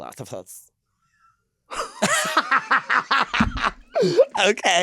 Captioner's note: laughing